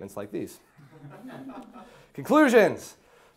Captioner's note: class laughing